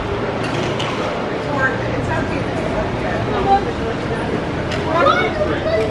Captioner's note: crowd chattering; child chattering